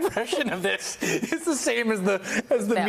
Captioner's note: laughter